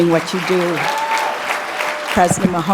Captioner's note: cheers and Applause